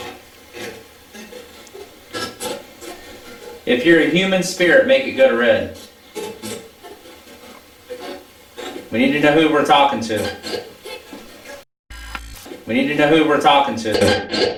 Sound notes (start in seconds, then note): 5.9 static playback transmitting; 11.9 static playback transmitting; 12.1 static fizzing; 14.3 static playback transmitting